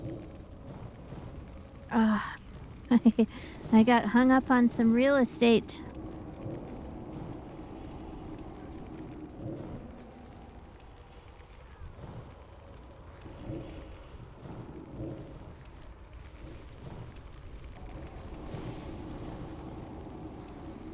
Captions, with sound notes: Ah, I got hung up on some real estate. [wind howling]